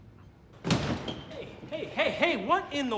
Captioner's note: slamming